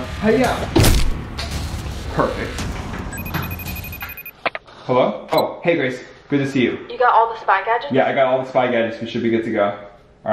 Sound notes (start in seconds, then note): 0.8 comic whip; 3.1 phone rings